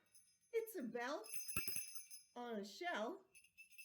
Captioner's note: rings bell